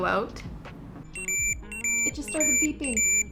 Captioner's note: beeping